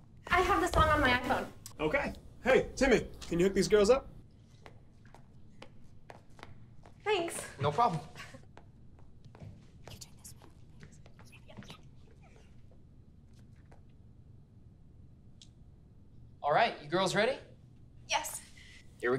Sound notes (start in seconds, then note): 10.2 girls murmuring